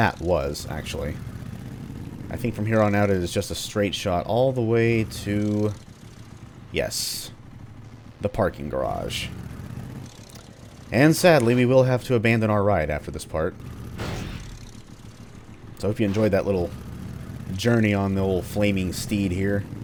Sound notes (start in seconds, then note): 14.7 scrapes wall